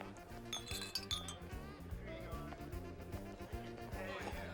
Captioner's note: glasses clinking